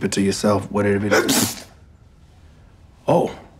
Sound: Levi sneezing

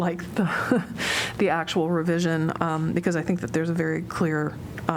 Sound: laughter

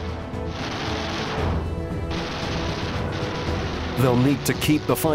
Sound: gun fires

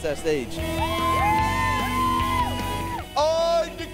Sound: cheers

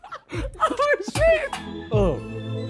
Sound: laughing

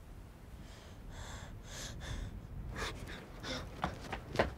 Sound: panting

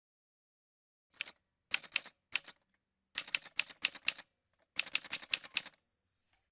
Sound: typewriter sounds

